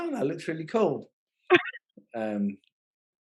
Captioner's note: laughing